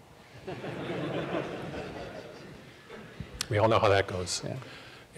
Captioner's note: laughter